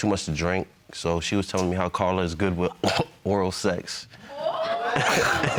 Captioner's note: coughs; chuckles